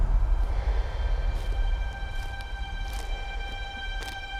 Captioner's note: breathing